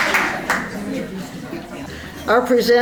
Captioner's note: applause; general chatter